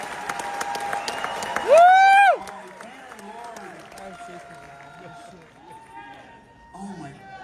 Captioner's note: cheering